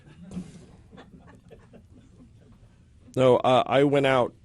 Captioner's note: laughter